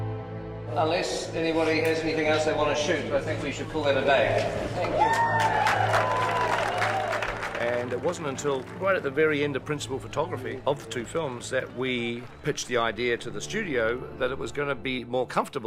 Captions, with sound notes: Unless anybody has anything else they wanna shoot... ...I think we should call that a day. Thank you. [PEOPLE CHEERING] And it wasn't until right at the very end of principal photography of the two films... ...that we pitched the idea to the studio that it was gonna be more comfortable...